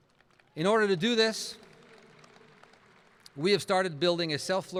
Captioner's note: applauding